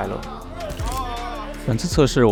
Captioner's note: team cheering